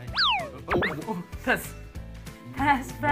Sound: laughs

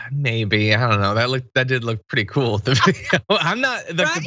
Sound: laugh

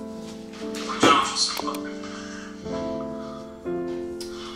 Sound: laptop sound

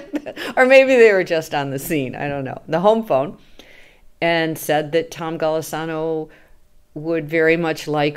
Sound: laughs

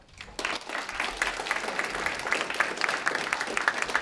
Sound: applause

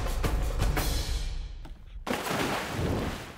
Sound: splash

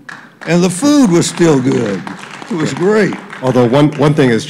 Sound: applause

